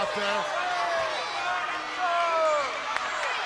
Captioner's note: crowd yelling